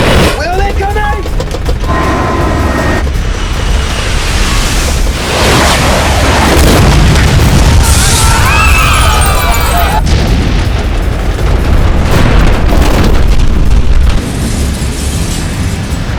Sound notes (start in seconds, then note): 0.0 rocket blast; 6.3 explosion; 7.6 screaming; 8.0 glass shattering